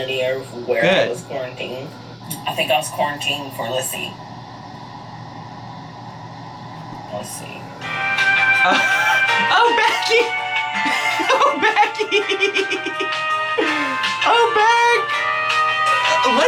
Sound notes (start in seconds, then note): 8.1 elevator music; 10.7 laughing